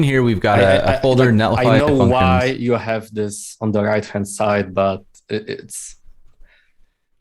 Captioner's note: sigh